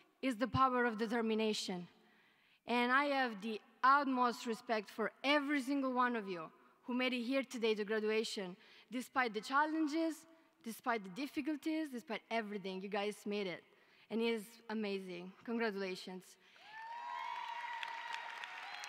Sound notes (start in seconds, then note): 16.6 cheering